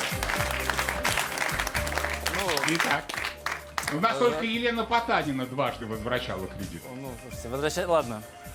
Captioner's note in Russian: аплодисменты